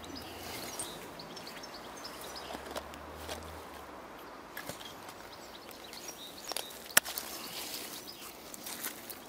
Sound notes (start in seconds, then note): 0.3 birds chirping; 6.4 cracking